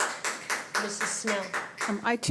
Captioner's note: applause